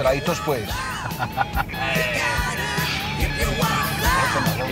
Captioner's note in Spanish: Risas